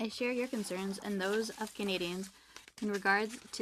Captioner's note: speaking French